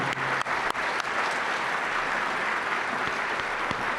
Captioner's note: audience applauds